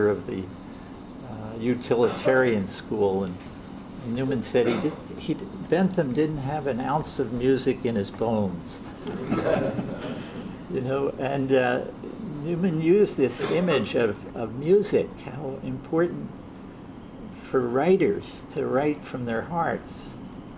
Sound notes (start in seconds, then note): 9.0 audience laughs